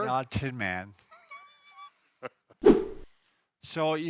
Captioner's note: laughter